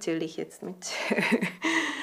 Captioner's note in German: Sie lacht